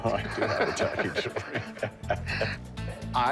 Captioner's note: laughter